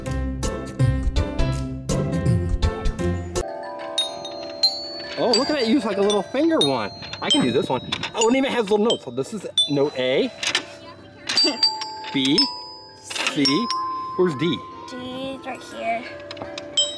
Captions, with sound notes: (chimes ring) Oh, look, I can use, like, a little finger one. I can do this one. Oh, and it even has the notes. So, this is note A. (bell chimes) B C Where's D? - D is right here.